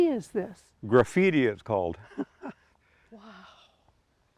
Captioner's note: chuckles